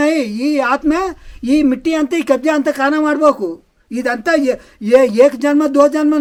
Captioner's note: speaking telugu